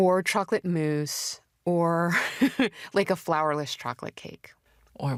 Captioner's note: laughs